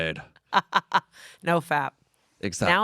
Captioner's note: laughs